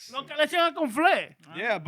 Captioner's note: speaking In Foreign Language